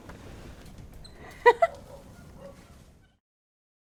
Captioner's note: giggles